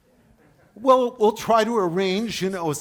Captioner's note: audience laughs